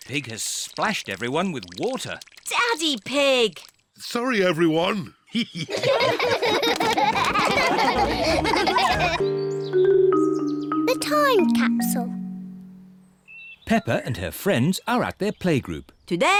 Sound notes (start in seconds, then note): 5.3 all laughing